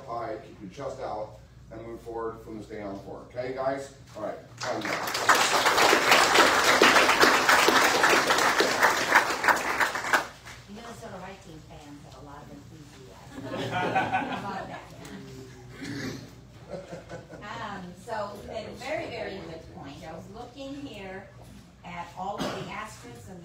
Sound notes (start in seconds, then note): 4.6 audience applauds; 13.4 audience laughs